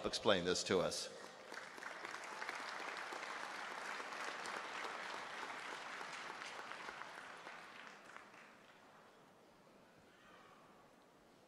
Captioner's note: applause